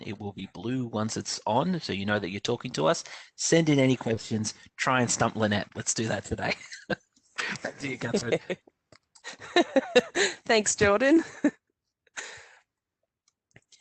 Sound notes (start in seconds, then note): 6.6 laughter; 11.9 chuckles